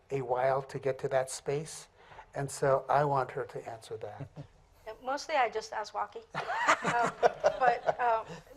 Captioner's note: laughter